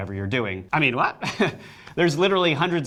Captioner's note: laughs